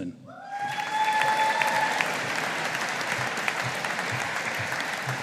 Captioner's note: audience applauding